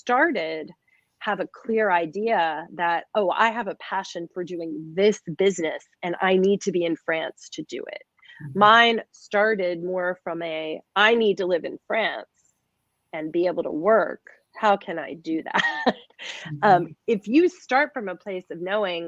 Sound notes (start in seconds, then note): 11.5 laughter